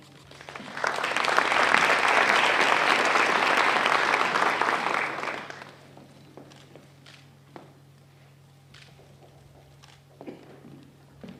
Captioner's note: applause